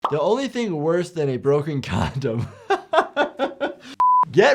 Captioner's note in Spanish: risas